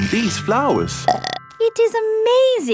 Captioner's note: burps